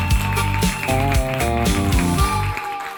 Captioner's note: applause / vocals